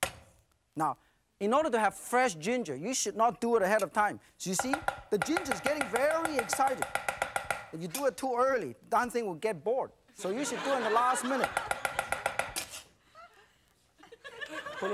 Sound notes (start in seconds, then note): 4.6 loud, fast chopping; 10.2 laughter; 10.2 crowd; 11.4 chopping; 11.9 crowd; 11.9 laughter